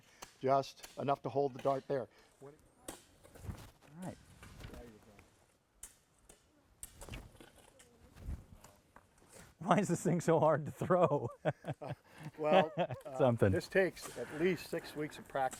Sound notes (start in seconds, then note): 10.7 laughs